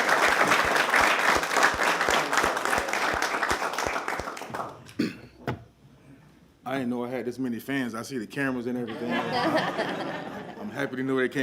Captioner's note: applause